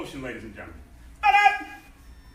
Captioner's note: enthusiastic shouting